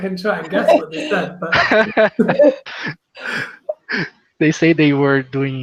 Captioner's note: laughs